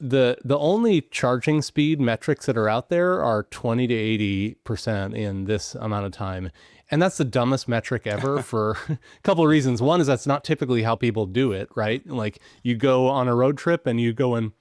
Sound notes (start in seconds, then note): 8.0 chuckles